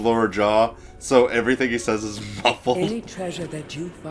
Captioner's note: laughs